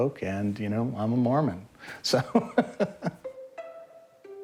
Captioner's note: laughs